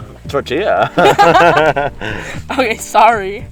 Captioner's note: laughs